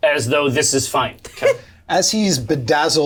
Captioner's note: laughs